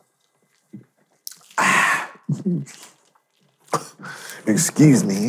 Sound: gasping

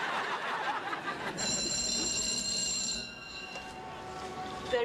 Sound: school bell rings

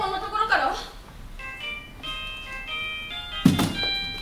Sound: phone rings

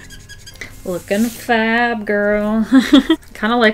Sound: laughs

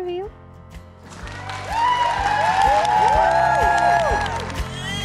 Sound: audience cheering

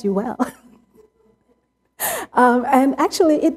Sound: laughter

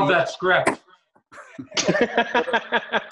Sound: laughing

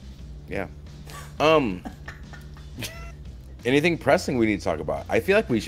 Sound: laugh

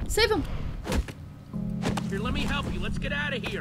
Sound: thud

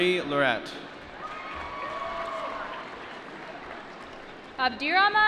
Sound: applause

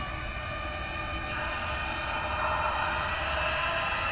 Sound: whisper

